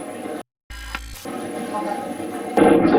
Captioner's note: static playback transmitting; static fizzing